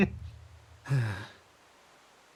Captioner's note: chuckle; Etete Sigh